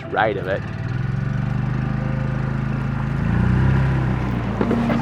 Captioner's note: engine rumbling